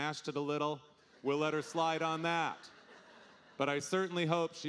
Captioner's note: audience laughing